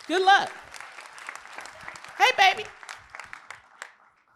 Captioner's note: applause